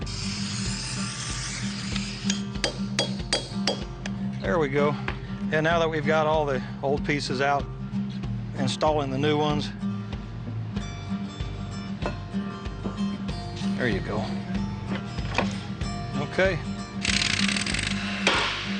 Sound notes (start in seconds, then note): 0.0 spraying; 2.6 hammering; 17.0 drill sound